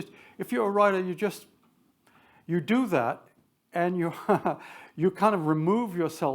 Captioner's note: chuckles